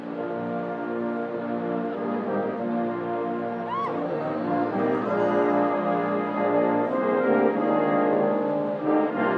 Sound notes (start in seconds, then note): 0.2 gentle flowing music; 3.6 crowd cheering